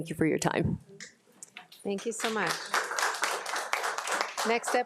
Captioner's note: crowd applauding